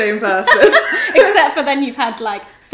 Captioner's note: laughter